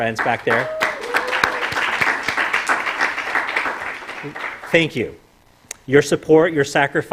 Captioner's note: applause